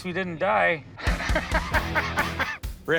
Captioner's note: laughs